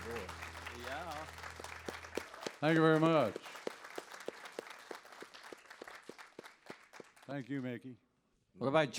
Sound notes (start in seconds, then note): 1.9 audience applauds